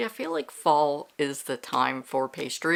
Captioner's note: none